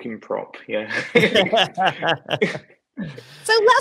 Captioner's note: laughs